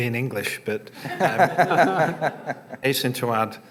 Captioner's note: laughter